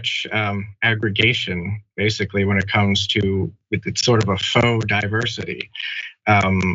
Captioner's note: laugh